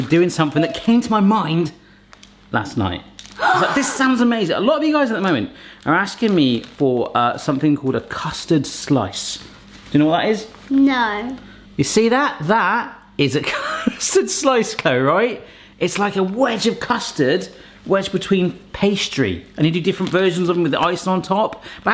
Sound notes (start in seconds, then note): 3.4 girl gasps